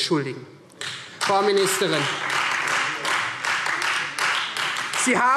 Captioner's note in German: Beifall Freie Demokraten und vereinzelt AfD